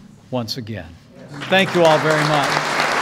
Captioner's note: applause